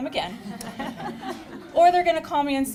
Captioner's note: chuckles